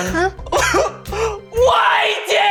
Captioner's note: sobs